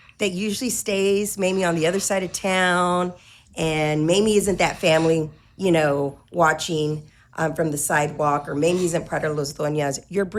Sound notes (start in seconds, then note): none